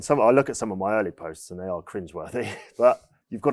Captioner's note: chuckles